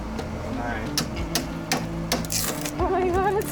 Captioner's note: hammer taps